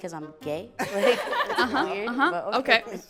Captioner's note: laughter